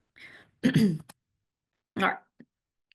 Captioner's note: clears throat